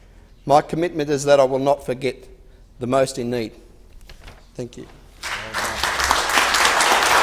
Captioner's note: applause